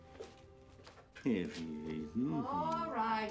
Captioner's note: grumbling